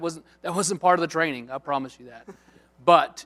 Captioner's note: chuckle